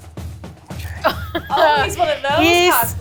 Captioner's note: drumbeats; laughing